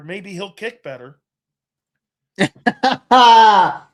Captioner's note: laughs